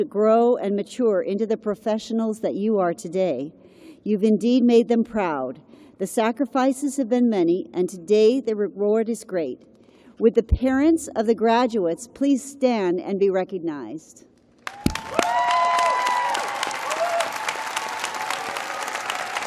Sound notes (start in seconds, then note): 6.0 cheers and applause